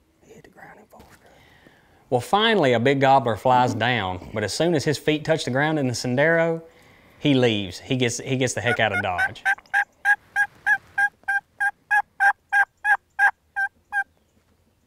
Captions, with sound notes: He hit the ground in full strut. Well finally a big gobbler flies down. But as soon as his feet touched the ground in the sendero, he leaves, he gets, he gets the heck out of dodge. (turkey calling)